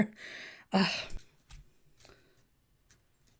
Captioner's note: Hana sighs